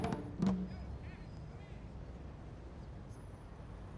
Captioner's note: none